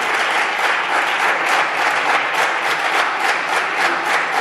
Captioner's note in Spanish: Aplausos